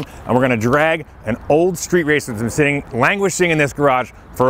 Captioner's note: none